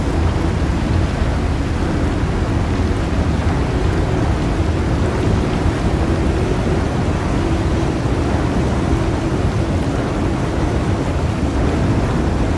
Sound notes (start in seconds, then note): 0.1 water splashing; 4.5 water splashing; 8.1 ominous music